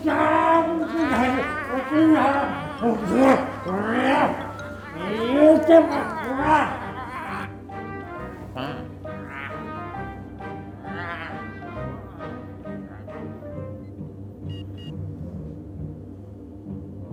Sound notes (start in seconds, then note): 14.5 electronic beeping